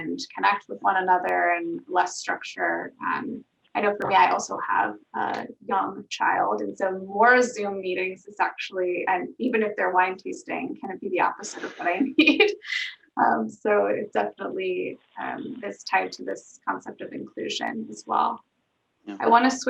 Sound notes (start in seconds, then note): 11.4 laughs